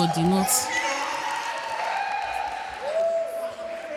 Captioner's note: audience cheering